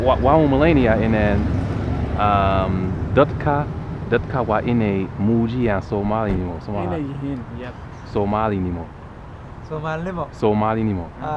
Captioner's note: somali